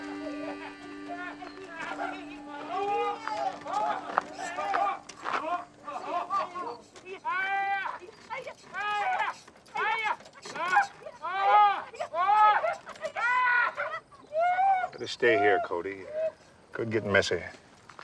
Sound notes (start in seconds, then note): 0.0 laughter and exclamations; 7.1 woman and man exclaiming; 10.2 both crying out; 12.3 man screaming